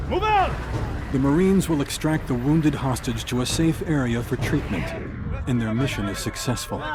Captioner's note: voiceover